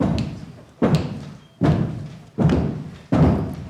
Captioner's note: crowd stomping their feet